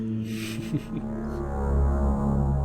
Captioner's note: laughs